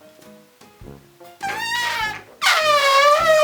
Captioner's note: squeak